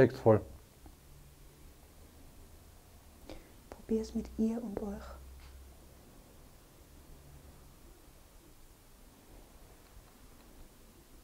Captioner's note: silence in the background